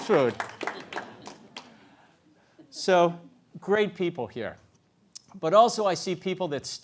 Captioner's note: applause